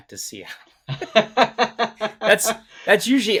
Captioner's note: both laughing